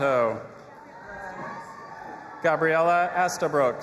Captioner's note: audience applauding and cheering